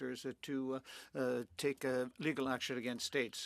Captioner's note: speaking French